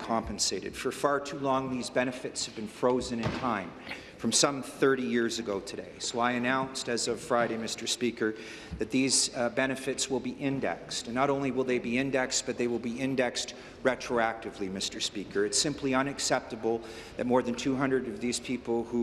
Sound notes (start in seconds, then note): none